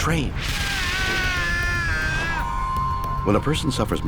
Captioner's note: man screaming